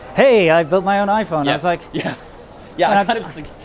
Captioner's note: chuckle